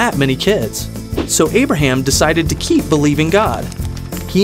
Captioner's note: fire crackling